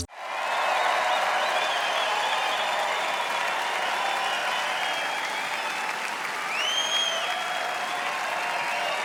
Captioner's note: audience cheering, applauding